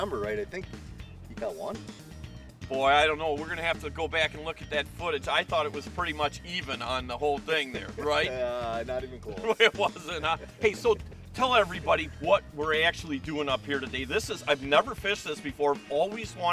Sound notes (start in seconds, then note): 9.3 laughing